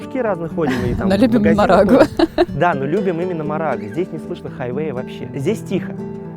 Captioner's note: laughs